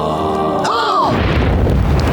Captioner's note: gasping